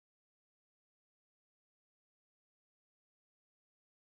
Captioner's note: none